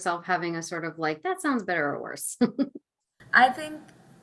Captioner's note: laughing